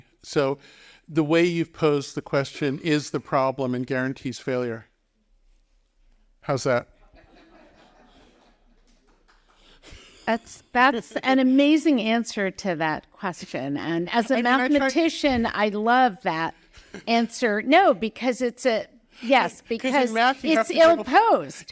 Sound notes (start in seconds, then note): 7.1 audience laughing